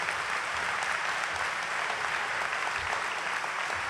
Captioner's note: applause